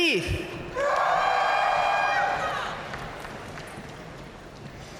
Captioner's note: audience cheering and applauding